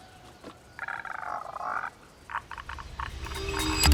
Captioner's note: screeching Noise